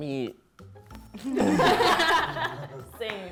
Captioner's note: laughing